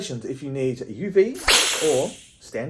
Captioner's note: vampire hissing